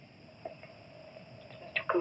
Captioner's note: none